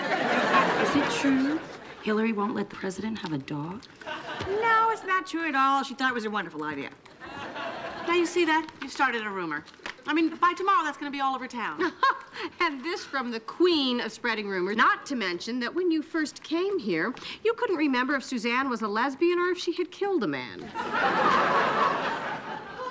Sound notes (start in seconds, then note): 11.7 laughing; 20.7 audience laughing